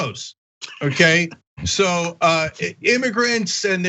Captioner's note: laugh